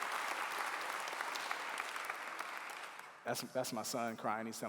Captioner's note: clapping